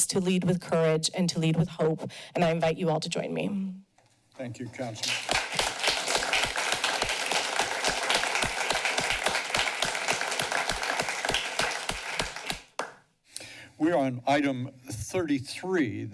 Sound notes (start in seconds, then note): 4.9 clapping